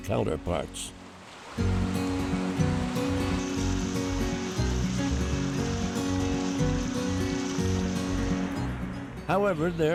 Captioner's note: water rushes